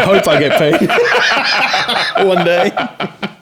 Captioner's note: laughing